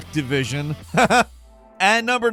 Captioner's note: Falcon laughing